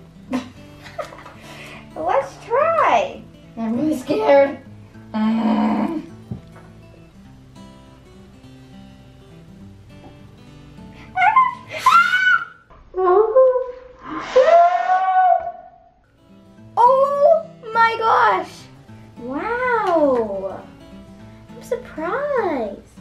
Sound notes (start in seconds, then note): 0.3 ha ha; 5.1 grunts; 11.2 screams